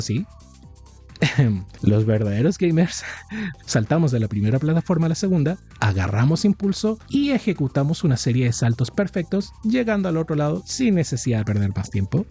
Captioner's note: ehem